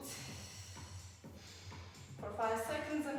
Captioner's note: exhales